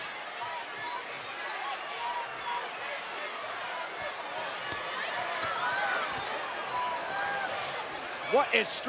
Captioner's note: applause